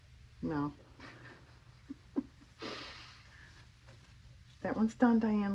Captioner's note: laughs